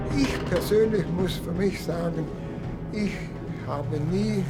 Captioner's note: speaking German